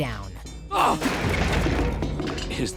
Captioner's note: grunting